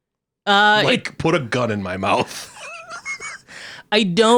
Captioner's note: laughs